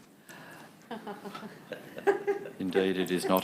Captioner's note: laughs